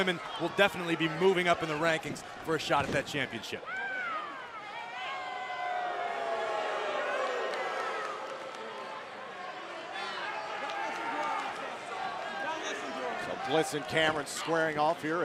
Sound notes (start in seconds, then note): 4.1 crowd cheering